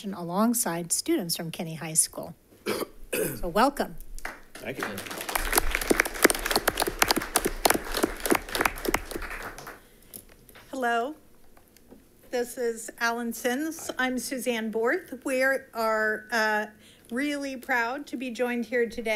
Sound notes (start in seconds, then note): 4.2 audience applauding